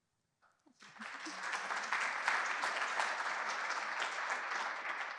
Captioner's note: applause